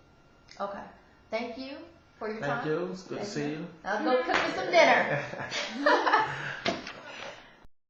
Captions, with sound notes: Okay. Thank you for your time. Thank you nice seeing you. Okay now cook me some dinner! *Laughs*